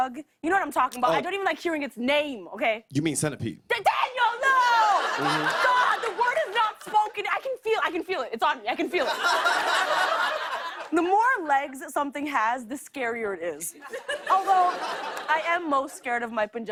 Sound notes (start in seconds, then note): 8.9 laughter; 13.8 laughter